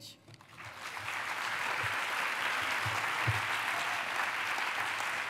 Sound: applause

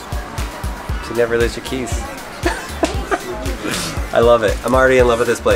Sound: laughs

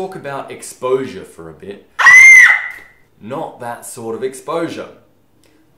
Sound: screem

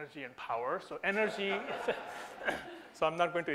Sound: audience laughter

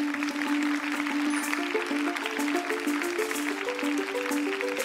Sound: applause

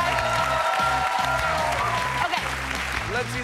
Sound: cheers and applause

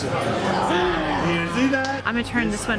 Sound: crowd chatter

